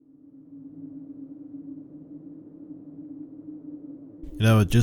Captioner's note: wind howling